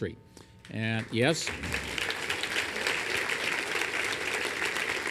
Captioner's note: applause